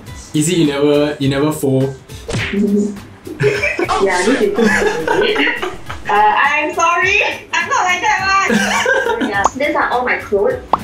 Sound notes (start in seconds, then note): 3.3 laughs; 8.4 laughs